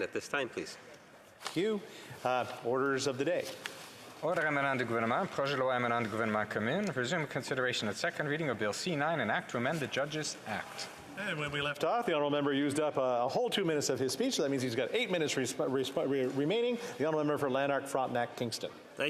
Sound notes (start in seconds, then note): 10.4 speaking French